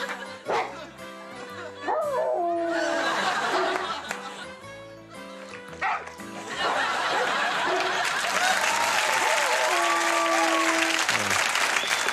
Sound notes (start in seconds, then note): 0.5 dog barking; 2.0 dog howling; 5.9 dog barking; 8.6 audience applauding; 9.5 dog howling